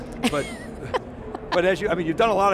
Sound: laughs

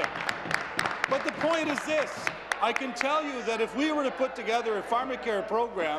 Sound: applause

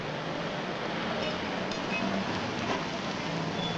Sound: car rumbling

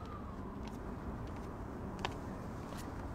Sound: footsteps

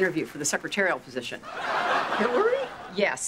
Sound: laughter

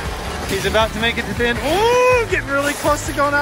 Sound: exclaims

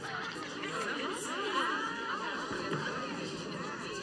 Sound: murmurs of approval

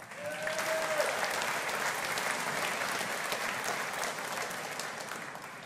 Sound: audience applauding

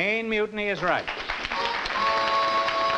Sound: applause; two horn blows

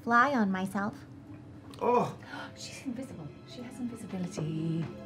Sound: gasps

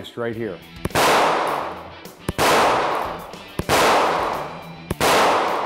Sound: gun shots

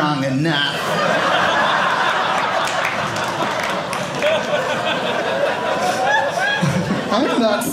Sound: audience laughing

